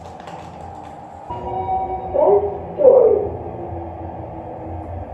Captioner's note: chime